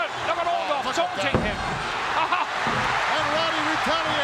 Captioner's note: audience cheering; laughs